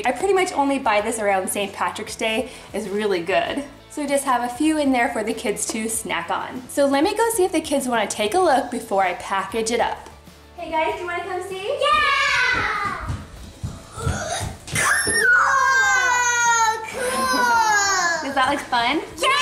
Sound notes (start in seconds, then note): 14.8 squeals